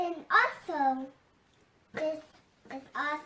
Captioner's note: none